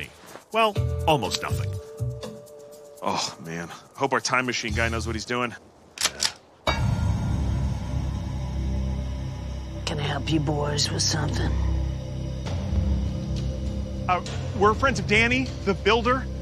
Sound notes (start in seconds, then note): 5.9 gun cocks; 7.7 suspenseful music playing